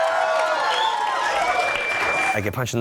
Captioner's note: audience cheering